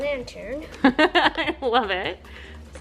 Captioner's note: laughing